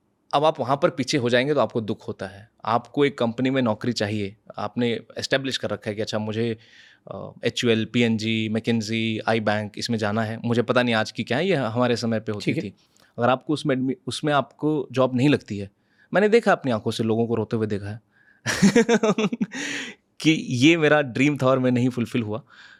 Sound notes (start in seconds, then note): 18.5 laughs